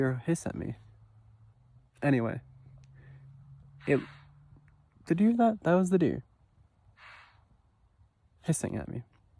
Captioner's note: deer hiss